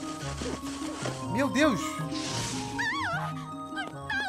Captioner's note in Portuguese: grito